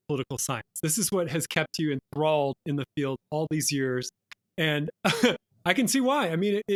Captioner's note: chuckle